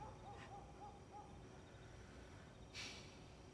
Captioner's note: dog barking